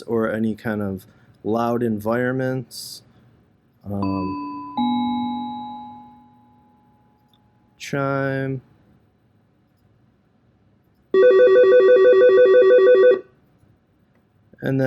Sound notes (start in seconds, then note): 4.0 Algo chimes; 11.1 Algo ringing